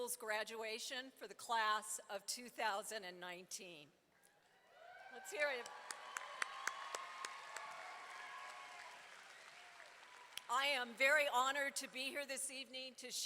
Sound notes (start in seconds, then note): 4.8 audience applauding and cheering